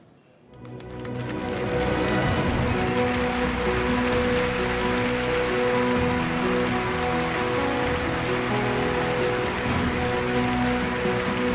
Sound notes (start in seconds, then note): 0.2 inspirational music; 3.9 applause